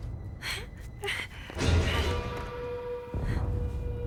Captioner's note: dramatic music; whimpering